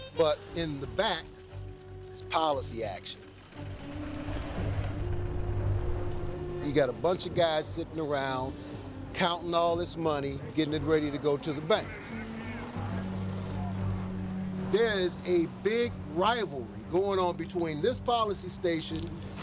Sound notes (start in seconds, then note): 11.8 hubbub, wheel spinning